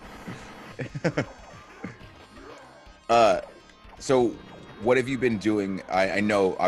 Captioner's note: laugh